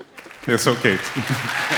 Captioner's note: applause